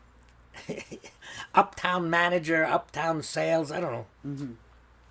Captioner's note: laughing